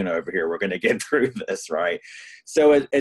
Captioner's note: laughs